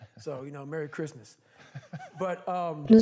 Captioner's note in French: en riant